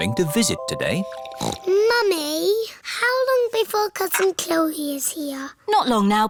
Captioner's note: snorts